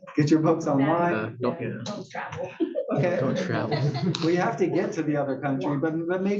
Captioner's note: laugh